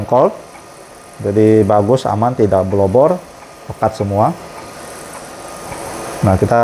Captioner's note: printer machine noise